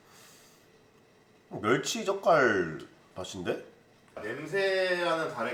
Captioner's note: Korean